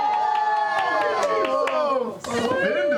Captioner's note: cheering